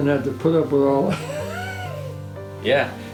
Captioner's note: chuckling